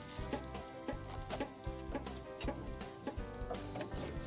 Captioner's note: tool tapping